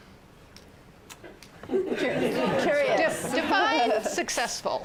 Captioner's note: laughter